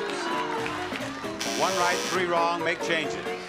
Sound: buzzer rings

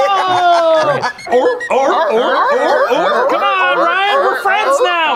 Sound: laughs; barking

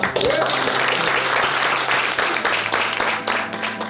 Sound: clapping

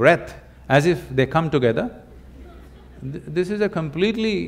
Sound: laughter

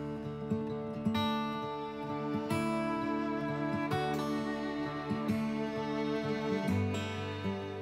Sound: sound of rushing water

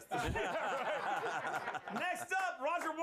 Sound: laughter

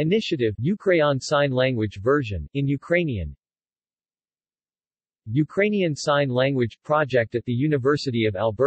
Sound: in Ukrainian; in Ukrainian

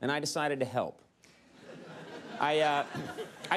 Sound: audience laughs

